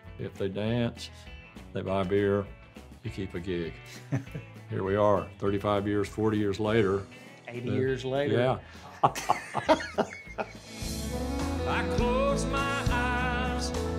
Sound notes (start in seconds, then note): 3.9 laughing nostalgically; 8.8 laughing jokingly